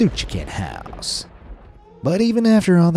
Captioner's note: thunder cracking